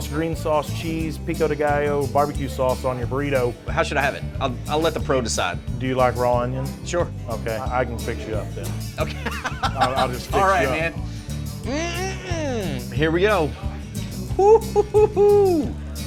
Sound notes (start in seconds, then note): 9.0 laughing